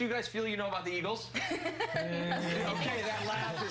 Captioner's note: laughter